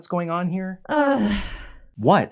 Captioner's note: frustrated Sigh